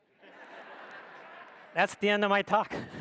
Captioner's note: audience laughs